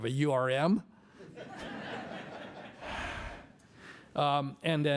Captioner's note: laughter